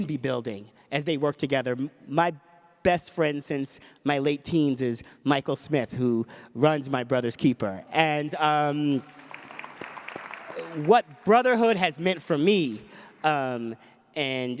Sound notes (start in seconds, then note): 8.8 applause